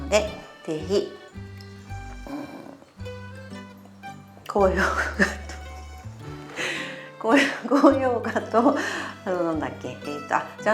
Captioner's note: laugh